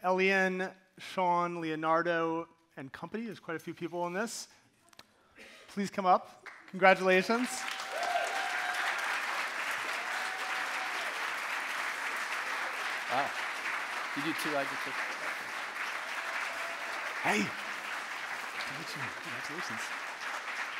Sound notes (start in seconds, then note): 8.4 audience cheering and applauding